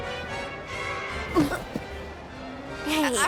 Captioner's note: both grunt softly